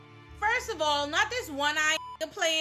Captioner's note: beep